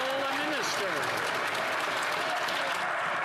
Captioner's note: some Applause